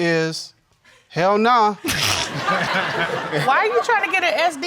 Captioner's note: all laughing